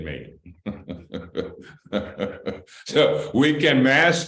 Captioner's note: laughter